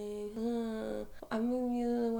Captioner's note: groaning